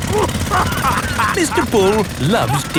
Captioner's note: laughing